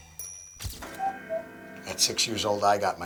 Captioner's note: cuckoo clock